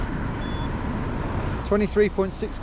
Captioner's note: watch beeping